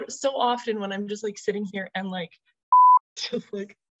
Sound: beep

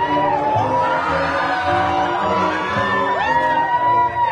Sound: students cheering

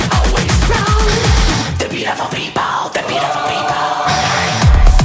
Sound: aahh

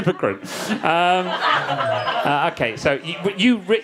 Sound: audience laughing

